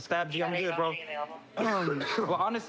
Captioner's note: coughs